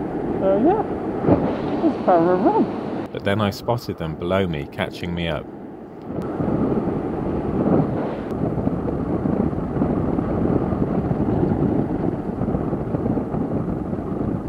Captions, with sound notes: "Oh yeah! It's ParaRob!", but then I spotted them below me catching me up. [wind noise]